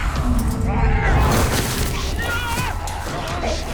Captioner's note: henry screams